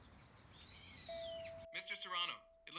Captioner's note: intercom dings; over intercom